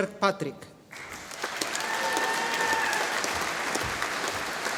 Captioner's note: audience applauding